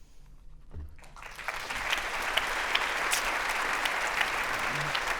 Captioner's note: audience applauding